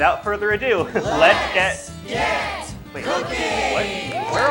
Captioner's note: cheering